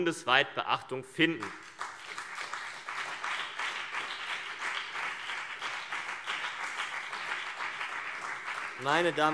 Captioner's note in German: Beifall CDU und BÜNDNIS 90/DIE GRÜNEN